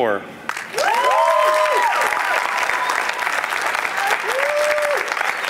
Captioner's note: applause